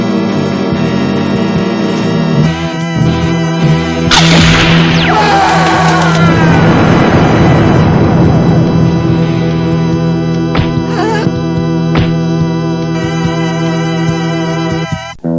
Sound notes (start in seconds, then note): 3.9 laser zapping; 4.8 screams; 10.7 groans